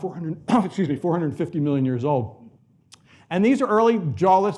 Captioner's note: coughs